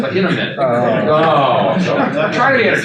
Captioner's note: attendees chuckle